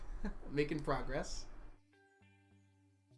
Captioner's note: chuckles